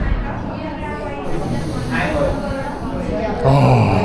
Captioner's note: inhaling